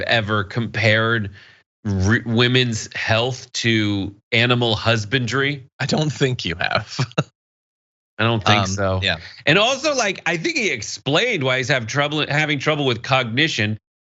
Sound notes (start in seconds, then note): 8.4 laugh